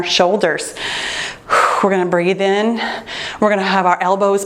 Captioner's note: exhales